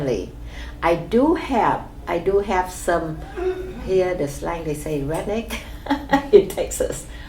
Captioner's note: laughs